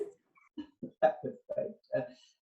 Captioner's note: laughs